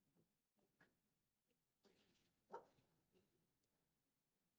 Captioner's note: silence